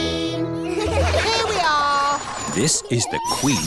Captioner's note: all giggle